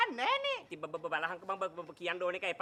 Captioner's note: stutters